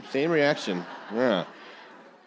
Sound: audience laughing

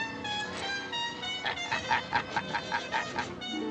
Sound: chuckling

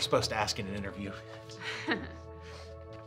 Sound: nervous laugh

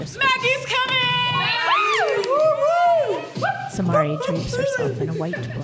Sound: cheers

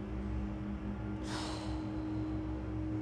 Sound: sigh

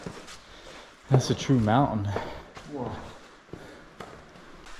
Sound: breathing hard

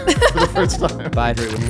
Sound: laughing amusingly

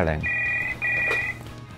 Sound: telephone rings

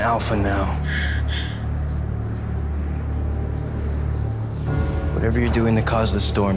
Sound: Jennifer breaths shakily

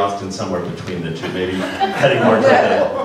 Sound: laughter

